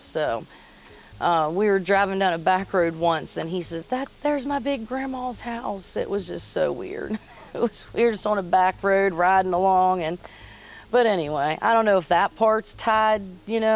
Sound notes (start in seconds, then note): 7.1 laughs